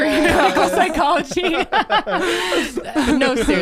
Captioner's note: everyone laughs